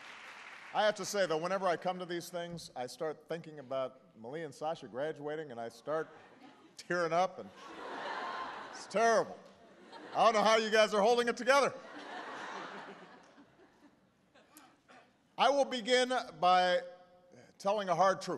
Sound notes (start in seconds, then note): 0.0 applause; 7.4 laughter; 13.2 laughter